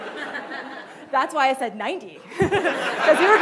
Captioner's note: laughing